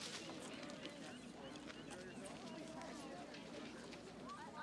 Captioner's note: people chattering